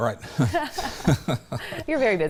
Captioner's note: both laughing